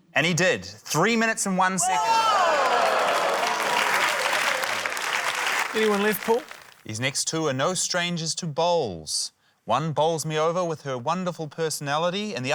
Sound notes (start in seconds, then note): 2.1 applause